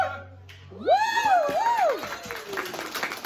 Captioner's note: clapping